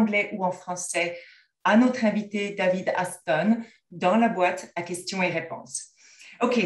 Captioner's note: french